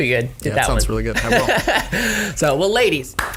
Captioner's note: laughs